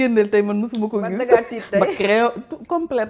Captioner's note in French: rires